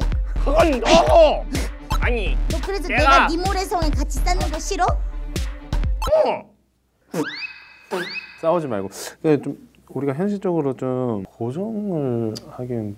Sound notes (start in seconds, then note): 7.1 blowing raspberries